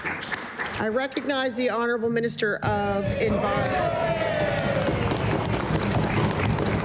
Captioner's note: some Applause